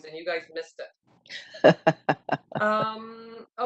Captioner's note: laughs